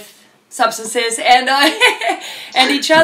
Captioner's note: laughs